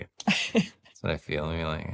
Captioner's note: laughs